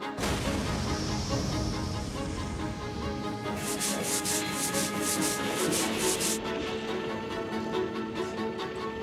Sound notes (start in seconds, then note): 0.1 fire whooshing; 3.3 brush scrubbing